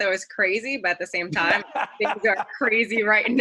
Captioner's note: laughing